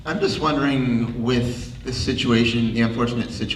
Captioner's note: voiceover